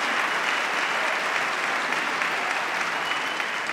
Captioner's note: applause